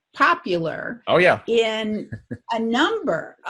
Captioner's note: chuckles